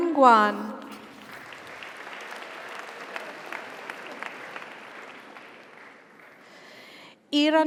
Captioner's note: audience applauds; audience cheers